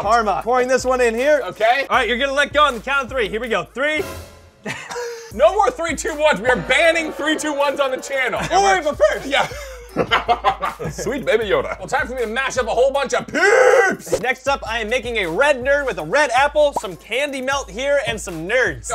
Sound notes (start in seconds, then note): 9.4 laughing